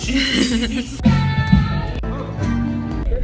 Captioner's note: upbeat music; laughing